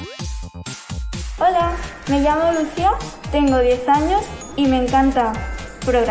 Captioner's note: speaking in foreign language